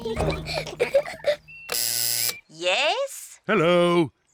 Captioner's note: kids giggling; buzzer sounds